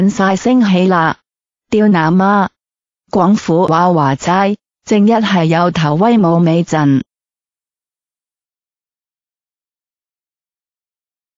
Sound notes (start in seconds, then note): 3.3 Cantonese